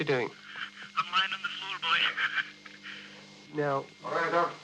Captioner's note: laughs